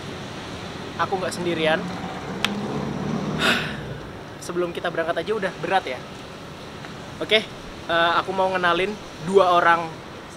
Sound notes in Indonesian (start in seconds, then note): 3.2 menghela nafas